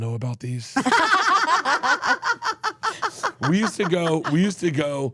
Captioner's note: laugh